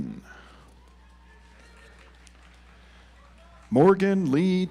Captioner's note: audience applauds